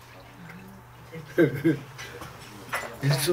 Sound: chuckling

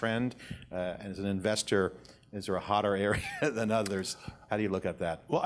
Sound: laughs

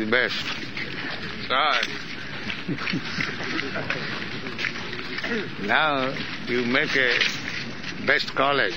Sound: chuckles

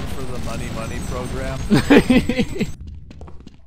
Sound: laughing

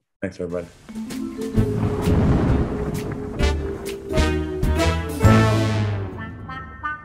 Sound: soft playful music; thunder crashes

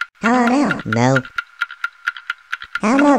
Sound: clock ticking

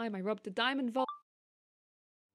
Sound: chime of a phone recorder turning off

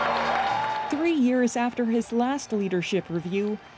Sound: cheers and Applause

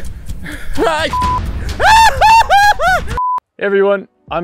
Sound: beep; nervous laugh; yelling; beep

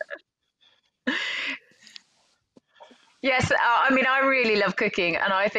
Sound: chuckles

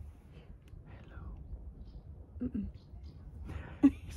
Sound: whispers

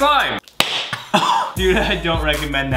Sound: laughs; slapping sound

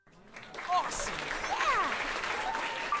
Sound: cheering

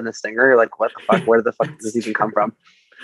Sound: laughs

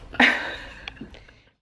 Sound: laughing

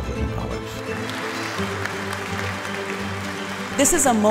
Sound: audience clapping

